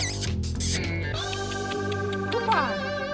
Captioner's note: calling